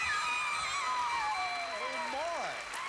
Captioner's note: audience applauding